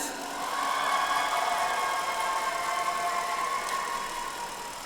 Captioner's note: audience applauds